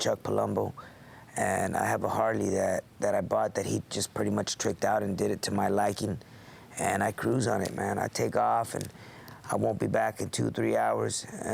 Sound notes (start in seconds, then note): none